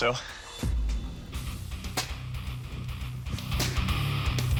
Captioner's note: chopping sound